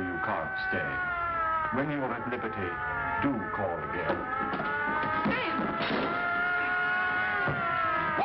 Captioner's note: sirens in background; commotion and struggle